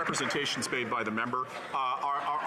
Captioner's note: some Applause